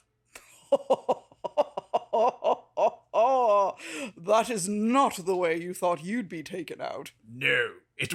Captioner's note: evil laughter